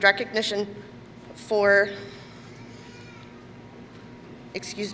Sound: none

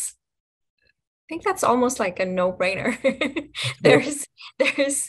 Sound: she chuckles

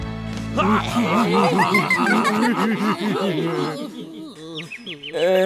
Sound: laughter

